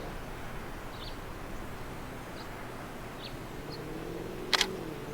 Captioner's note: bird chirping; camera shutter clicks